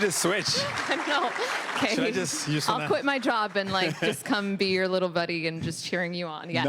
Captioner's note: applause